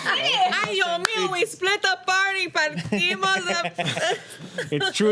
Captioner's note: laughing; speaking foreign language